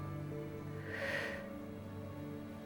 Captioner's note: sighs